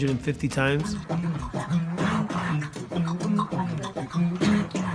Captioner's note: beat boxing